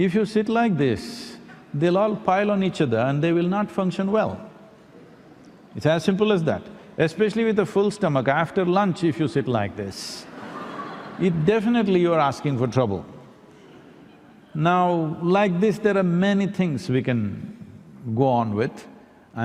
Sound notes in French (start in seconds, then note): 10.3 rire